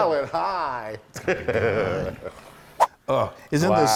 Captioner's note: laugh